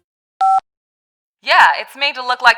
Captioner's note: beep